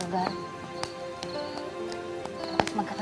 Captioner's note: fire crackling